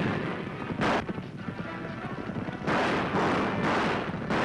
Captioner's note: gunfire